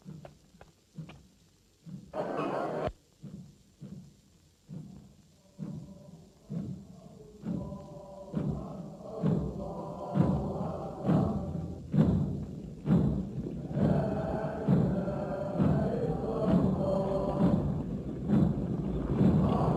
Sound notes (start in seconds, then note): 1.3 rhythmic drumming; 6.7 army chanting in Arabic